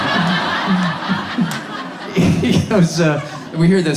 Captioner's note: audience laughs